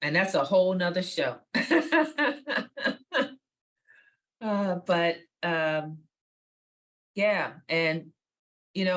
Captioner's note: laughs